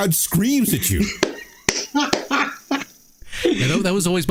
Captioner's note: laughing